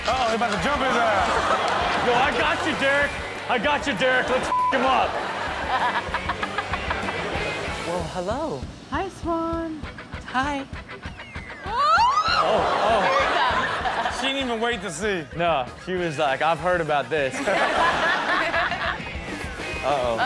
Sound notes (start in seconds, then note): 1.2 audience laughs; 4.4 beep; 6.3 audience laughs; 11.6 screams; 12.3 audience gasps; 17.3 audience laughs